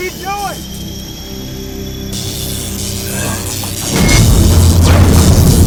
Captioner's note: electricity crackling